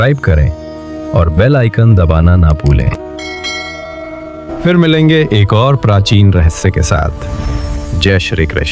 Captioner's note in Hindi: घंटी की आवाज़